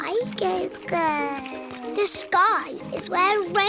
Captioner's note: babbles